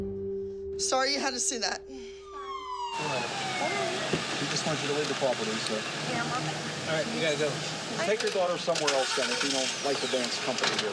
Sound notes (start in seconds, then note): 2.4 police sirens wailing